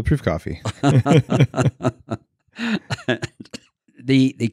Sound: laughter

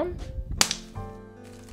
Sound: neck extension snap sound

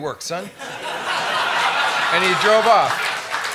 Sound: laughter

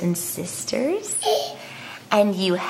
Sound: giggling

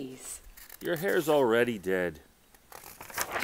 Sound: flipping newspaper page

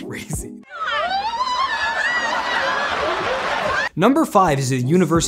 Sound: joyous screams

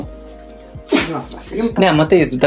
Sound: Terra sneezes in Dog language

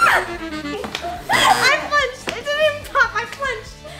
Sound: screaming; buzzer

